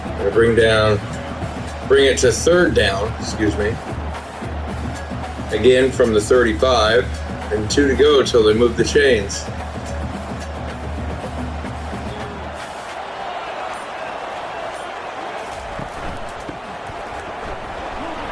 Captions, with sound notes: And bring down bring it to third down, excuse me. [Crowd Noises] Again from the 35 and two to go until they move the chains. [Crowd Noises]